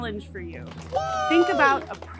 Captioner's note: clapping